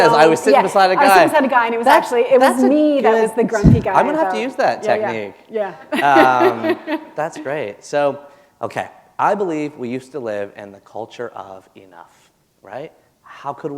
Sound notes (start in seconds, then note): 5.9 laughter